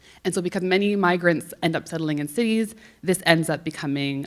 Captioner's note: none